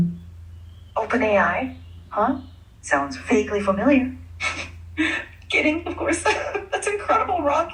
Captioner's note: female AI voice